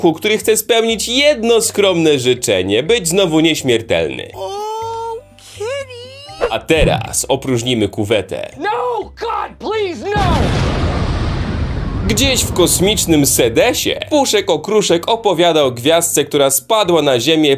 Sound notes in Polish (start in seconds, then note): 10.1 boom!